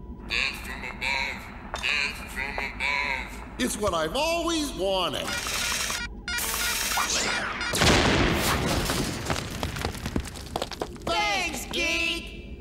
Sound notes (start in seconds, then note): 5.2 beeping; 7.7 explosion sound effect